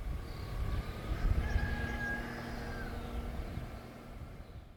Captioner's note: 🐓 Rooster voice